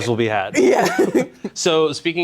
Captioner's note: laughing